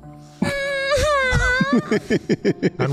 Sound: Dabarella begins to cry

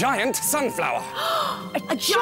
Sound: gasp!

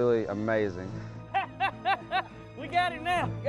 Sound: laughing

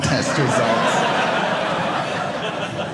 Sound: audience laughing

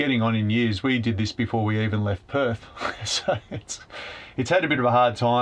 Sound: snickers

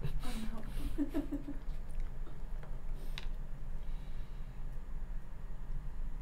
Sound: laughing

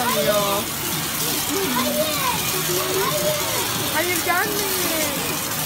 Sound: water sound

